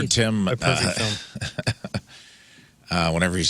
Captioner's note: laughs